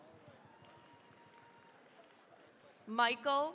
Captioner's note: cheering, applause